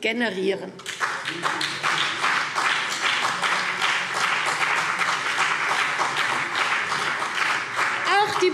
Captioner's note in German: Beifall CDU und BÜNDNIS 90/DIE GRÜNEN